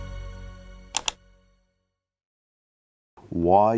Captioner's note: mouse click